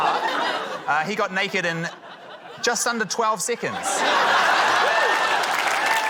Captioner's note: laughter; cheering, applause